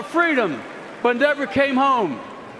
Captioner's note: cheers and applause